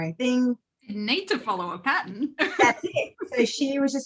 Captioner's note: laughs